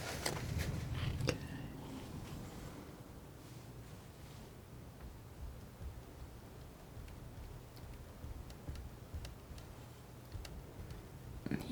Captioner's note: scraping